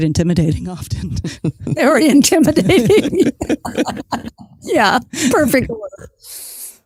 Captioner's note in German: Lacht